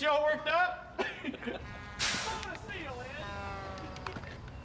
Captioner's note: chuckles